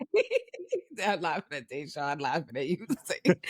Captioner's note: laughing